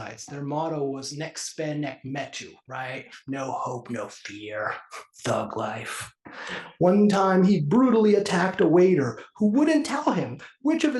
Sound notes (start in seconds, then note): 4.9 laugh